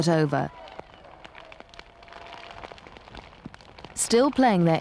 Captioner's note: crowds cheering and applauding